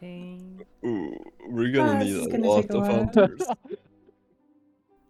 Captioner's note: haha